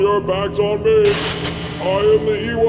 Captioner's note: electric zaps